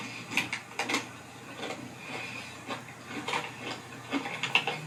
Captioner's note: chewing